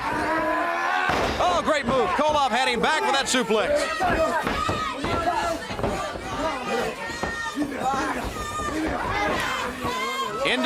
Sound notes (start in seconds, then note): 4.4 crowd cheering; 6.1 crowd chatter